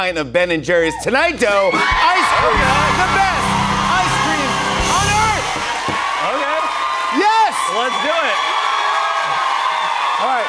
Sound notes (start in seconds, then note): 5.5 cheers and applause; 8.8 cheers and applause